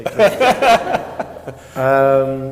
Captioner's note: laughter